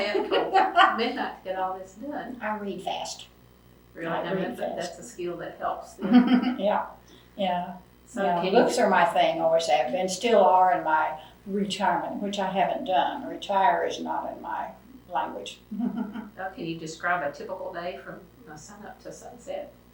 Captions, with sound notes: stay up till midnight to get all of this done. I read fast. That is a skill that helps. Books are my thing, always have been and still are in my retirement which I have not done. Retire is not in my language. (Laughs) Can you describe a typical day from sun up to sun set?